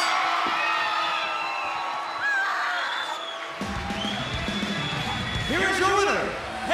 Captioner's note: bell ringing